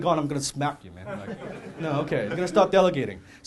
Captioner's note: audience laughing